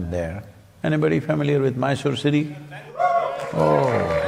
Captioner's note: cheering/Applause